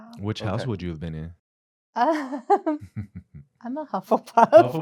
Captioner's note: laughter